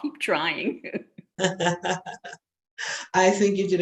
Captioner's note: laughing